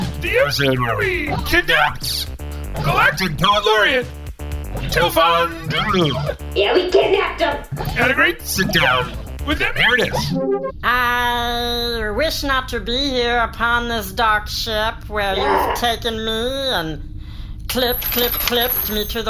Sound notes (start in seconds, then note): 11.7 reciting